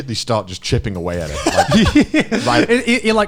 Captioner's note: laughing